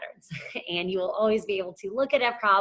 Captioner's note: chuckles